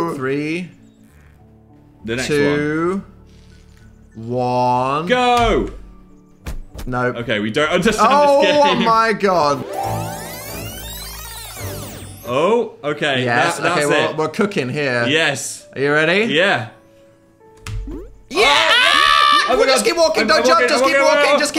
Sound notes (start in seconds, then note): 8.0 laughs; 9.6 fast forward sound effect; 18.3 screams